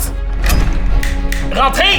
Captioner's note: sound of a key